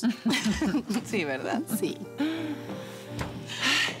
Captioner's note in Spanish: Risas